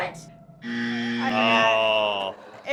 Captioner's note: buzzer